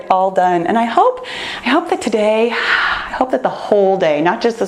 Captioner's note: exhales